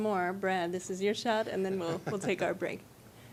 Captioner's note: laughing